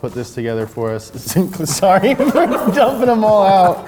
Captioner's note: laughing